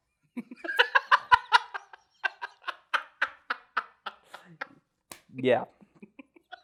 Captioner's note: laughs; continues laughing